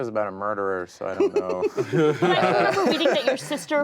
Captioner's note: group laughing